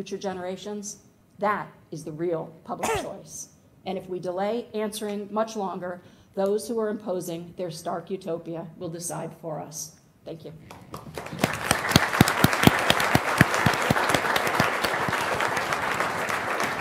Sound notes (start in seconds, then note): 10.6 applause